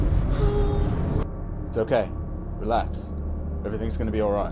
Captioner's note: child whimpers